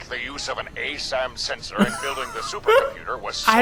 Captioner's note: laughs